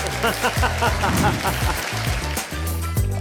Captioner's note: mellow chime music; audience clapping; laughing; liquid bubbling